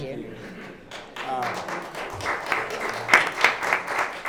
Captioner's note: clapping